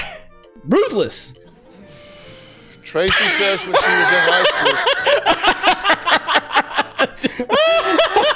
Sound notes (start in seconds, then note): 1.5 sigh